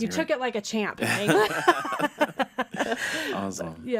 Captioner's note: laughing